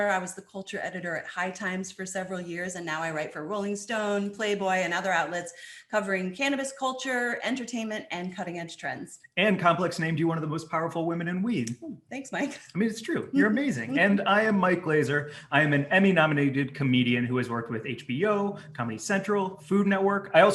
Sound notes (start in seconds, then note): 13.1 chuckles